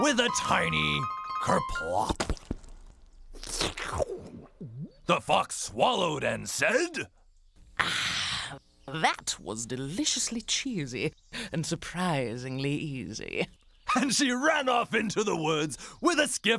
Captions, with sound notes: ( sighs, satisfied ) THAT WAS DELICIOUSLY CHEESY AND SURPRISINGLY EASY.